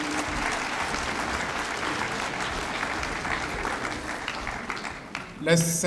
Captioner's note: applause